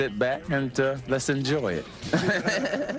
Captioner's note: laughs